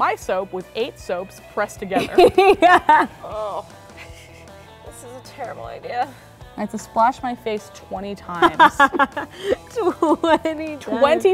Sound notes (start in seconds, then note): 1.9 laughing; 3.7 groaning; 8.4 laughing